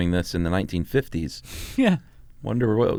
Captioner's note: laughs